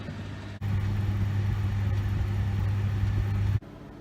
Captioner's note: sizzling